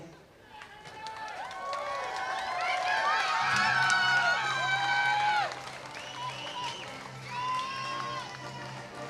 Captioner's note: applause